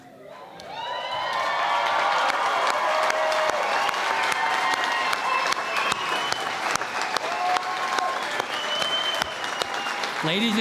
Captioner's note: cheering and Applause